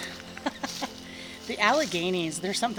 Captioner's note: person laughing